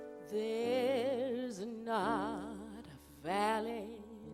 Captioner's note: none